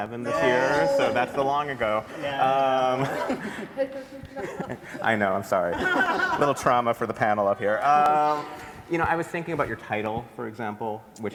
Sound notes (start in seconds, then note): 3.0 everybody laughs; 5.7 everybody laughs